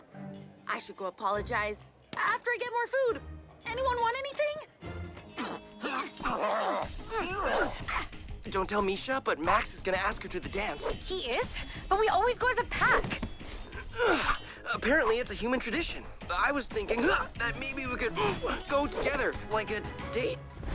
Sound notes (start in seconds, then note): 5.4 kids grunting; 6.8 steel clashing; 14.0 Brax grunts